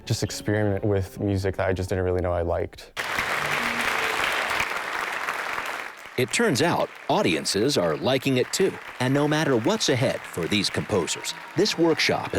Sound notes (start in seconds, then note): 3.0 audience applause